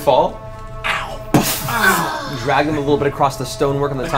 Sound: groan

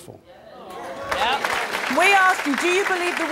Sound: audience applauding

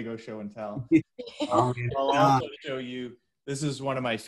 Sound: laughs

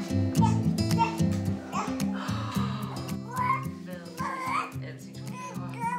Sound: baby sounds

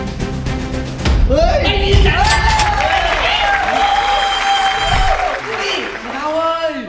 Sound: applauding

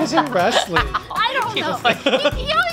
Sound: laughing

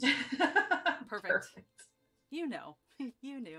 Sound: laugh

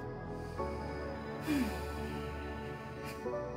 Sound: sighs

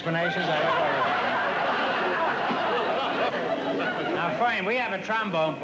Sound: laughter

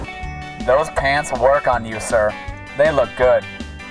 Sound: voiceover

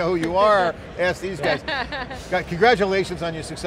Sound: laughing

